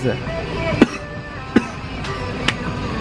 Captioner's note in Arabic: يسعل x2